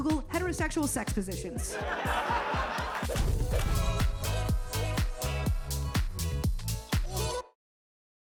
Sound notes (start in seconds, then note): 1.5 upbeat music; 1.6 audience laughing; 3.1 text and graphics whooshes